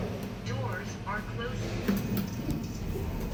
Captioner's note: doors are closing